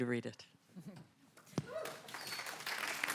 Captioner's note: applause